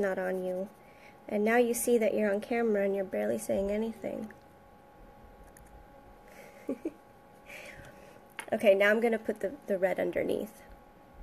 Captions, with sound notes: not on you and now you see that you're on camera and you're barely saying anything. (giggles) Okay, now I'm gonna put the red underneath.